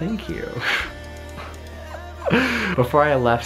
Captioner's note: laughing